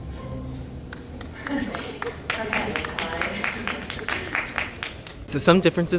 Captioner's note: applause